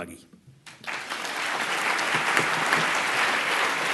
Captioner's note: applause